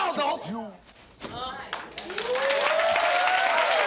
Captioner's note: audience cheering